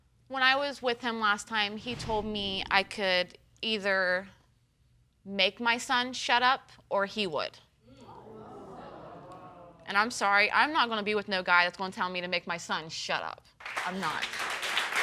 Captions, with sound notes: When I was with him last time he told me, I could either make my son shut up or he would. (AUDIENCE MOANS) And I'm sorry, I'm not gonna be with no guy that's gonna tell me to make my son "shut up." I'm not. (AUDIENCE APPLAUDS)